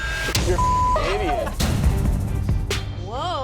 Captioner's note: beep